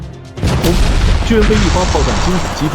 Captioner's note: boom!